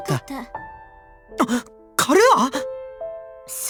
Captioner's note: gasp